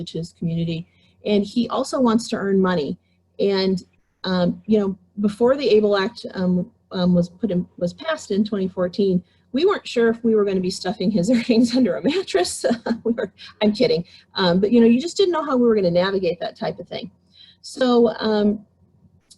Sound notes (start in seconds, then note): 12.7 laughs